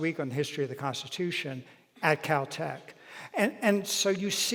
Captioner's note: none